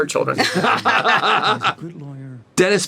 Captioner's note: laughter